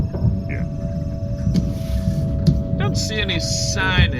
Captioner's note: lever flips, sound of ship idling